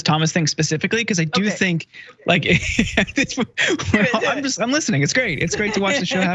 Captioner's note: laugh